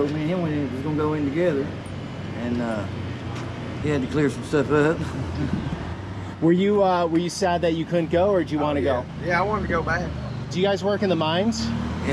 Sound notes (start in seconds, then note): 4.9 laughs